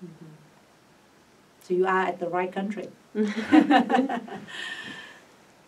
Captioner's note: all laugh